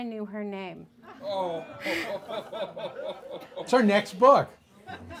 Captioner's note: audience boos